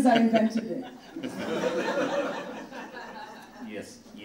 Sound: audience laughing

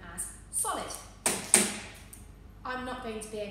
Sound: bangs chocolate on the surface twice

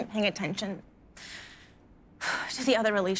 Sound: breathes deeply

